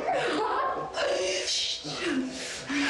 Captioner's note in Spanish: Risas